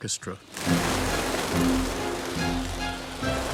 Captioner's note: birds flapping; dramatic orchestral music